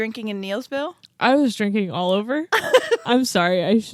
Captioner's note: laughs